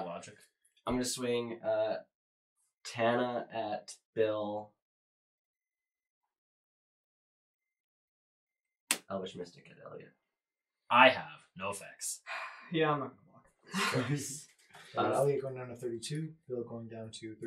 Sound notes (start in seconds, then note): 12.3 sigh